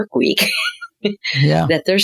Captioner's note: laughing